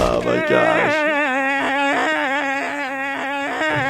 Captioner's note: crying